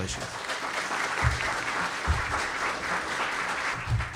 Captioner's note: audience applauds